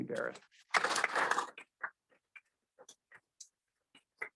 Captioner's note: all clapping